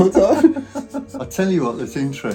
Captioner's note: both laughing